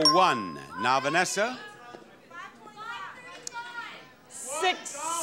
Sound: audience shouting numbers

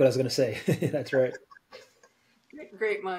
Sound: laughs

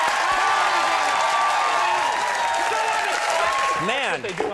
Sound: audience cheering

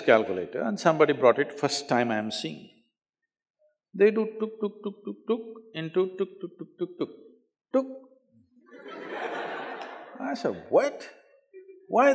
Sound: laughter

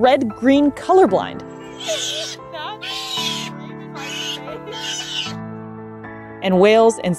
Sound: background music; background chatter; sea otter vocalizing

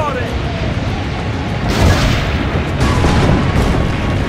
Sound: cannons firing

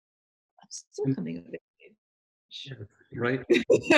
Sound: laughs

